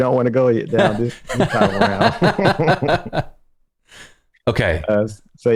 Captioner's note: laughter